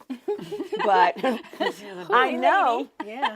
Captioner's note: all laughing